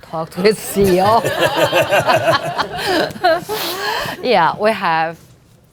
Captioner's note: audience laughing